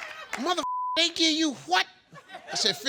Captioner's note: beep